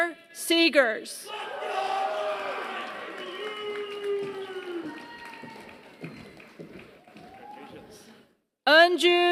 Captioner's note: applause